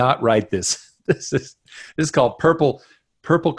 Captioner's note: laughs